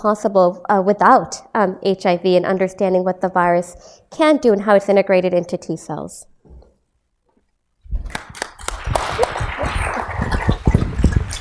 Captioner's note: applause